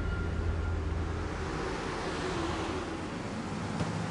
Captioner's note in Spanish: Sonido de los camionetas